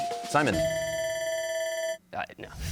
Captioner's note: bell ringing